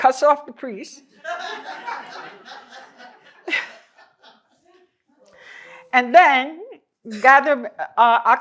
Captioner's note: laughter